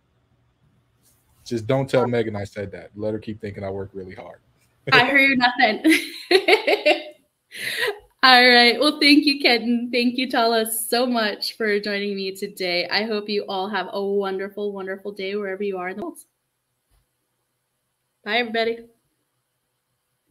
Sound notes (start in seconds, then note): 5.8 laughter